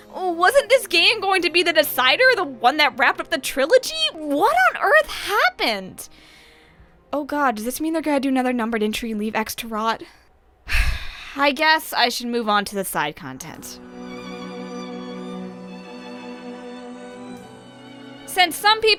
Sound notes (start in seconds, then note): 10.6 sigh